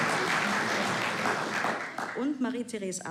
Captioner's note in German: Applaus